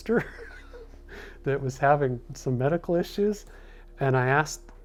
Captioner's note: laughs